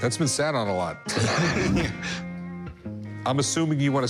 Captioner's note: laughter